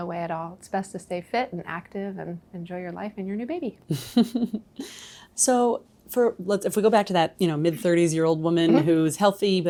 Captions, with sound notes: There's no way at all it's best to stay fit and active and enjoy your life. - (laughing) So for let's, mid thirties, old woman who's healthy,